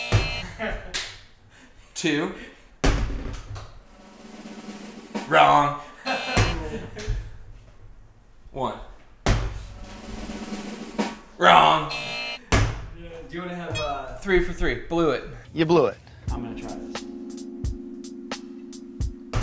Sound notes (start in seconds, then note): 0.0 buzzer; 0.4 off camera laughs; 3.8 drum roll; 5.9 off camera laughs; 6.0 buzzer; 9.7 drum roll; 11.8 buzzer